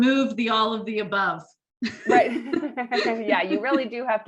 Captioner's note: laughter